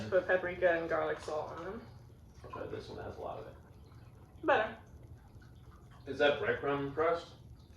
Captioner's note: chewing